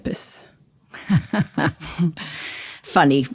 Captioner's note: laughs